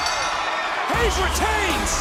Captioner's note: bell rings